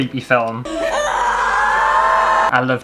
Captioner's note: screaming